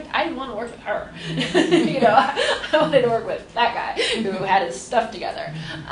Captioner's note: laughs